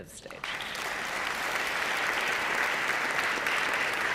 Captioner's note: audience applauding